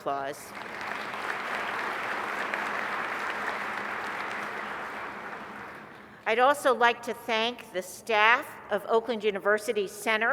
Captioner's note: applause